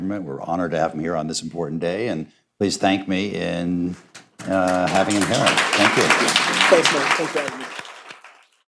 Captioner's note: applause